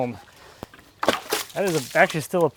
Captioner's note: water splashing